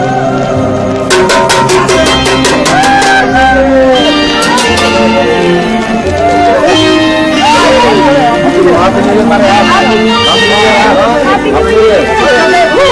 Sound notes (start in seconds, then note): 1.1 pot clanging